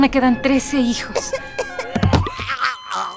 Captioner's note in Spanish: un niño tose y se ahoga